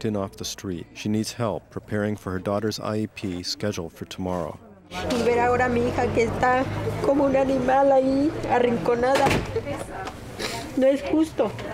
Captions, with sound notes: She needs help preparing for her daughter's I.E.P. scheduled for tomorrow. [Speaking Spanish]